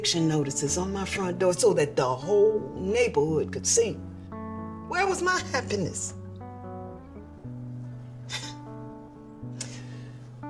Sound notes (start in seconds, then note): 8.2 sighing